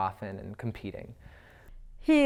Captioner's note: none